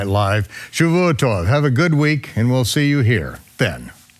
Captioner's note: speaking foreign language